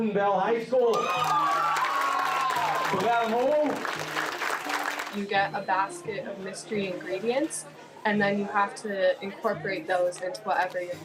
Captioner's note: cheers and Applause